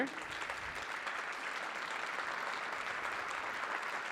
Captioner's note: audience applauding